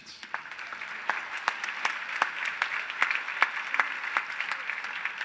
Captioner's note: applause